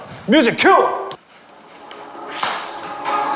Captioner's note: rustling